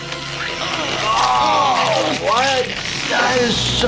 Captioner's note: ripping